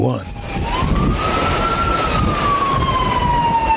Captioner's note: sirens wailing